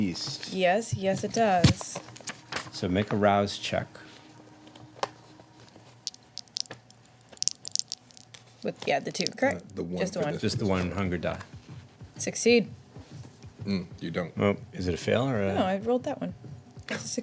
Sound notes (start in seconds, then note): 6.0 dice rolling